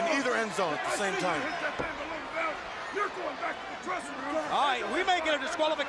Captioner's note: crowd chatter